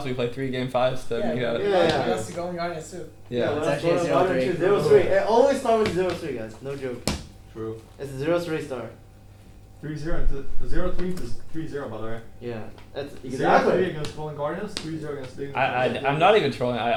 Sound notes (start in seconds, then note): 3.4 all chattering